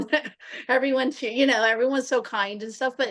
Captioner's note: laughter